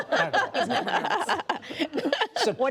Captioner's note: laughter